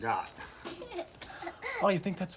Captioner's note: Erica giggling